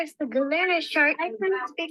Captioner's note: chatter